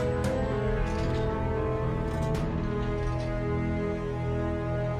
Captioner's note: bars clanging; stirring music